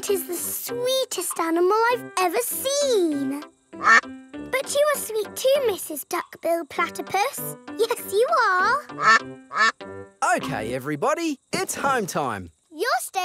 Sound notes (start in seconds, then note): 3.8 quacks; 8.9 quacking